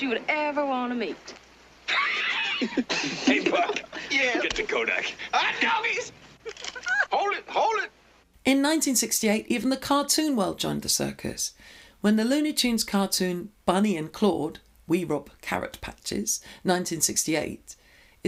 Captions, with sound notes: you would ever wanna meet. (all laughing) - Hey, Buck. Get the Kodak. - All right, dogies. (camera clicking) - Hold it, hold it. - In 1968, even the cartoon world joined the circus when the Looney Tunes cartoon, "Bunny and Claude, We Rob Carrot Patches," 1968,